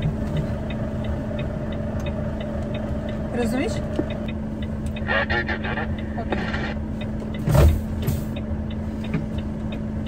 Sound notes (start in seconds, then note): 4.2 conversation in German